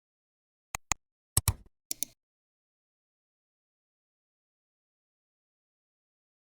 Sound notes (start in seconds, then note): 1.9 3 different clicks